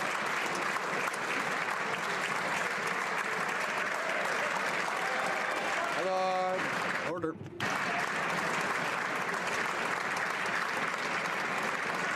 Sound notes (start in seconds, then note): 0.0 applause